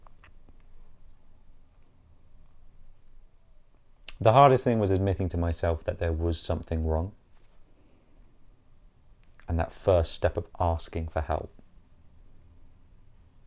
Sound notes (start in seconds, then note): none